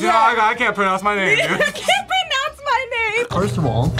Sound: laughs

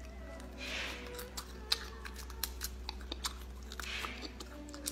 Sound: lady crunches

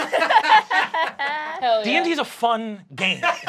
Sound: laughing

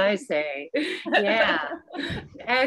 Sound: laughs

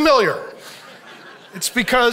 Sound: audience laughs

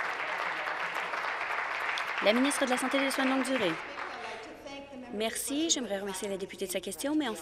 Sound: applause

